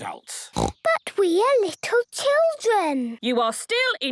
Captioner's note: snorting